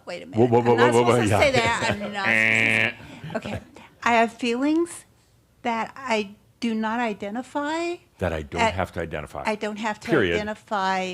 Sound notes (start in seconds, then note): 1.1 chuckles